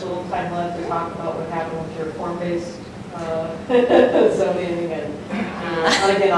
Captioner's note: laughs